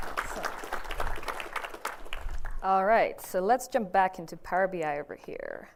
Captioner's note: applause